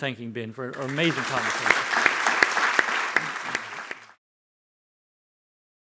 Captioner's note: audience applauding